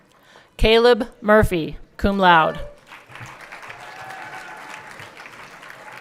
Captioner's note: everyone clapping